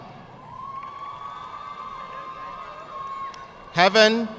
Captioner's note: audience clapping